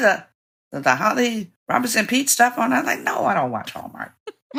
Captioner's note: laughter